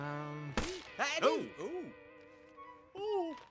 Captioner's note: rip!